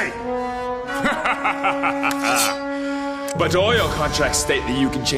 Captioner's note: laughs